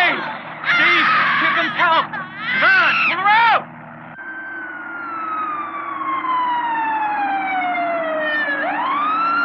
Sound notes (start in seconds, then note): 4.9 siren blaring